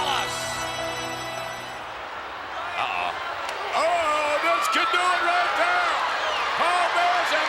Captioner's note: applause